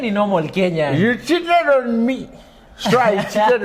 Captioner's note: drunk Voice